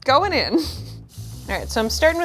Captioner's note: chuckling